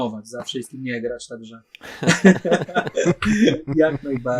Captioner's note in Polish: śmiech